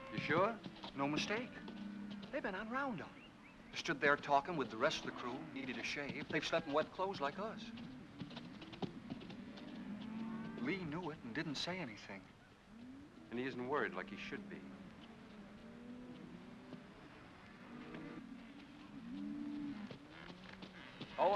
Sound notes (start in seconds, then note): 8.2 hoofbeats; 17.5 cattle moo